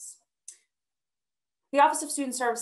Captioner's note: clicking